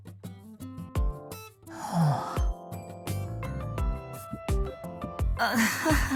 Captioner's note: sigh